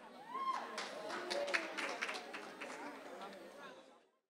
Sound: general chatter; applause

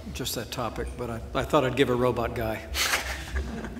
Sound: laughs

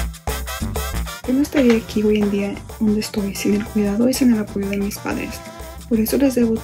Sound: speaks in foreign language

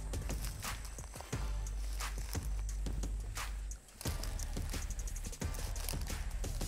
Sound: grass crunching; uplifting music continues

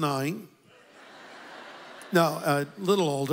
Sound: audience laughs

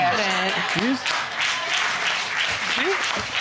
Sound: audience applauding

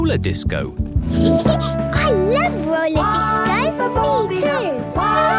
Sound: Peppa laughing; trumpeting

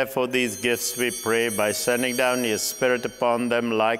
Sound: bell ringing

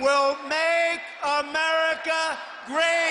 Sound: cheers

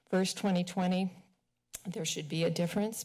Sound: smacks lips

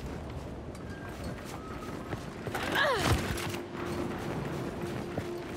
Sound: footsteps

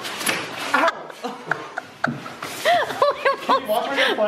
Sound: laughing

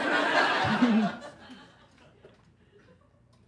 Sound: laughter

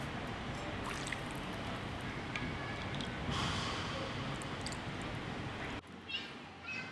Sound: pouring sounds

